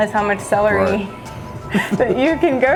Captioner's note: chuckling